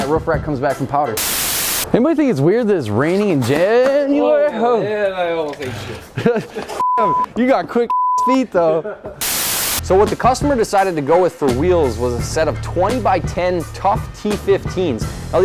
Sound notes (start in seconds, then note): 5.4 laughs; 7.9 beep; 9.3 laughs